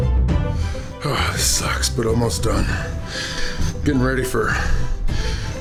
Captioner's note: grunts